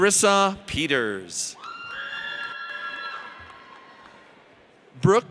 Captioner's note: audience cheers